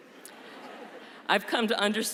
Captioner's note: laughter